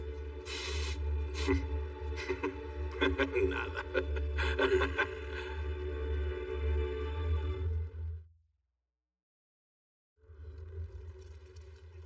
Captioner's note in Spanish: Ríe